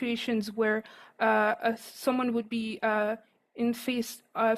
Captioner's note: speaking French